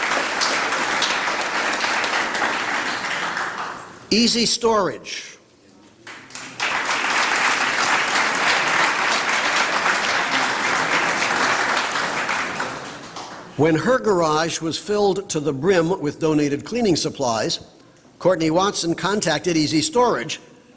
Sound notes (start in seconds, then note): 4.2 applause